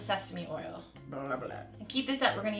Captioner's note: speaks gibberish